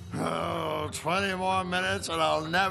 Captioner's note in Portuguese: Gemido